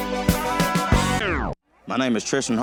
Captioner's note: record scratches